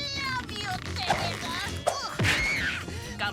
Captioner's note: Tabitha shrieking